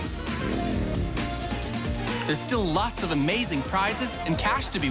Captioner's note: engine revving